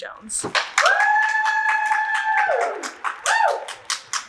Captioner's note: audience cheers